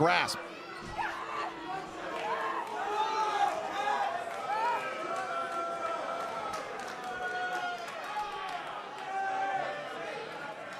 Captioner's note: crowd cheering